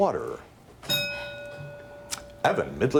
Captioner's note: bell dings